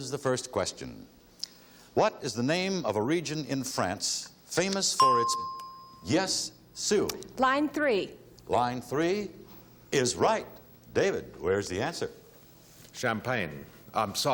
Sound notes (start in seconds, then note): 5.0 ding